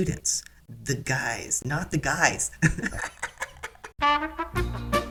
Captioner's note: laughter; elevator music